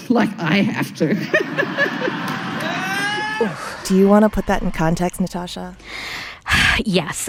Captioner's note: laughter